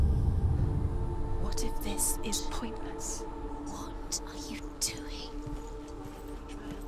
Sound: whispering

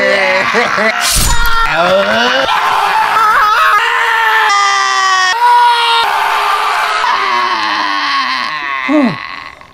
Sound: all screaming

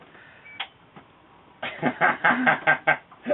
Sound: laughs

